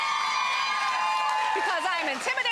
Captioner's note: applause